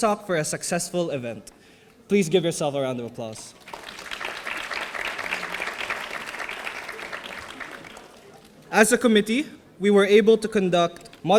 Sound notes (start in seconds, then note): 3.6 audience applauding